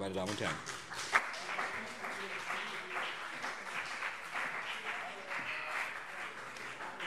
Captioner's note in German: Beifall BÜNDNIS 90/DIE GRÜNEN und CDU